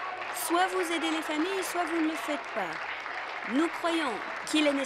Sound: applause

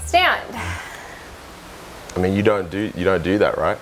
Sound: sighs

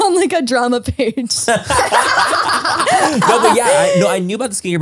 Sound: everyone laughs

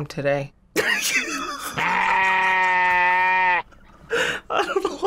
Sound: laughs

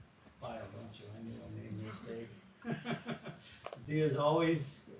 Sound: chuckles

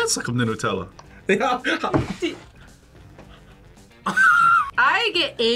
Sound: laughs

